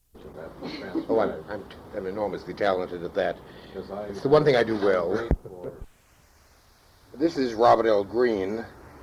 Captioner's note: chatter